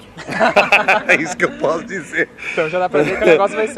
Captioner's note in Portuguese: risos